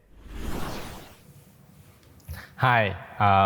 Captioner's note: whooshing sound effect